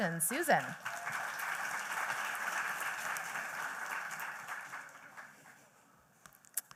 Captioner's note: applause